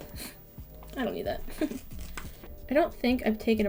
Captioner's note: scoff